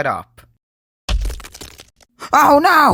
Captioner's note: bang